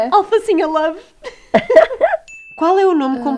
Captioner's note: laughs